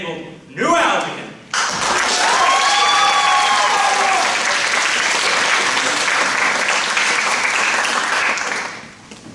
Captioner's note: applause